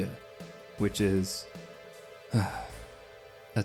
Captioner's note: sigh